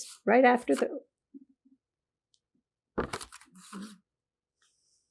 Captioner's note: pauses 13 seconds